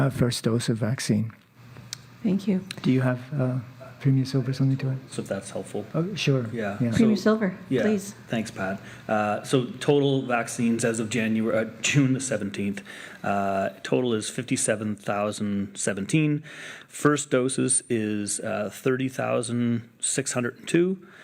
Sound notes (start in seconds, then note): 7.8 speaking French